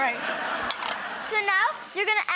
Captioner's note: audience laughing